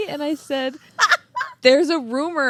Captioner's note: laughing